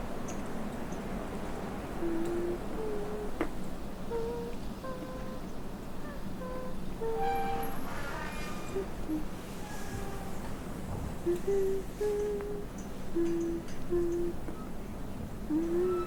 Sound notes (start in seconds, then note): 1.8 the little girl is humming the tune